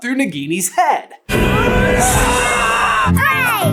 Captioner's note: scream of victory